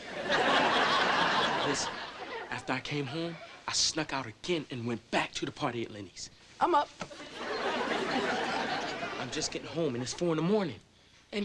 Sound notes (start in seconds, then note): 0.0 audience laughing; 7.1 audience laughing